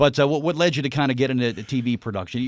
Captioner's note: laughing